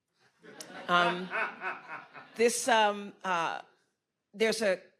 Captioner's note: audience chuckles